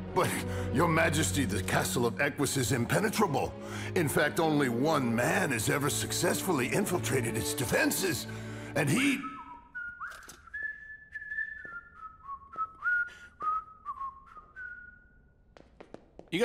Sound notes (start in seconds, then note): 8.9 Eugene whistling